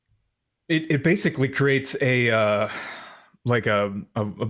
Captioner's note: sighs